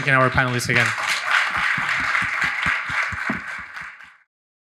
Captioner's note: audience applauding